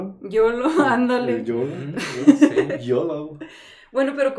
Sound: agreeing & Laughing

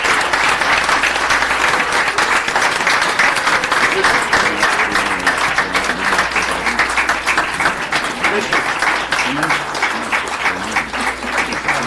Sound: applause

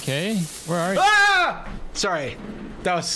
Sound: yells

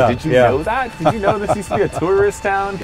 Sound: laughing

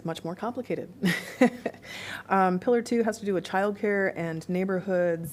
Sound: laughter

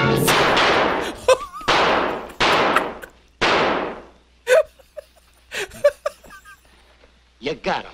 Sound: laughs

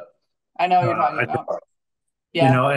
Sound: faintly speaking

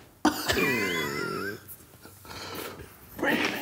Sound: laughing

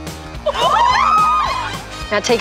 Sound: scream

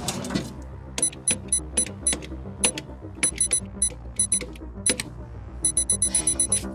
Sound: typing; computer confirmation beeps

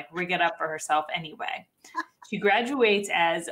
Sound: laughs

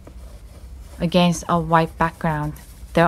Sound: the sound of pencils drawing on paper as the ambience of a forest fades in

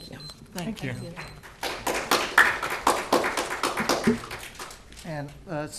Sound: applaue

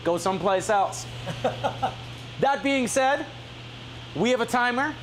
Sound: laughing

